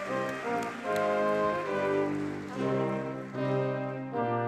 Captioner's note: audience clapping